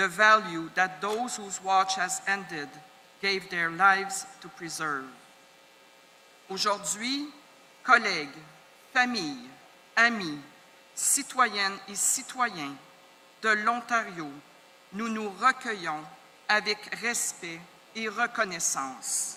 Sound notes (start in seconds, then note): 7.3 speaking French